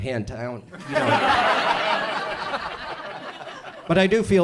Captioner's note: audience laughs